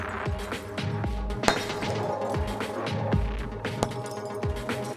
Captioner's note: popping noises